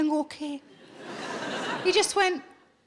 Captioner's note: audience laughing